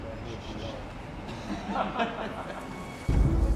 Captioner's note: crew laughing